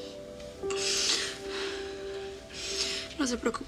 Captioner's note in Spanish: Sollozos